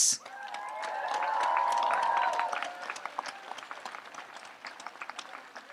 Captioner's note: audience applauds and cheers